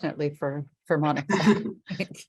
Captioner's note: all laugh